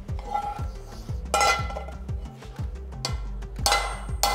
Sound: metal clangs

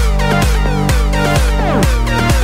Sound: none

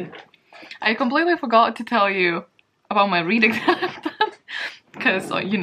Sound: laughs

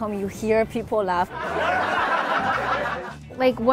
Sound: crowd laughing

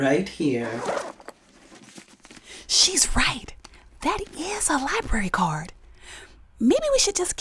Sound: Whispering, to Rachel

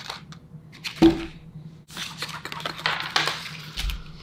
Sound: cards dropping

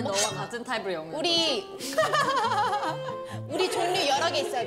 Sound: burst out in laughter

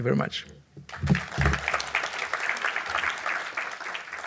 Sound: audience applauding

